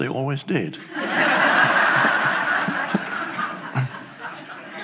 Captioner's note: audience laughs